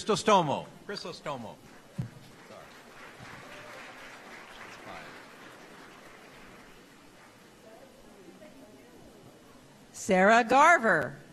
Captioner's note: applause